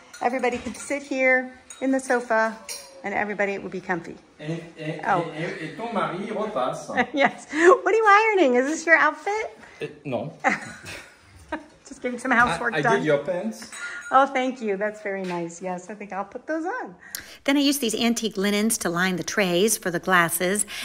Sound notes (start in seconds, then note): 5.3 speaking in foreign language